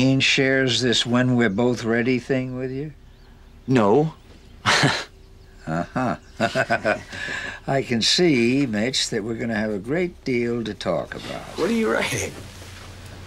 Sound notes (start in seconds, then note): 5.4 chuckles; 5.4 laughs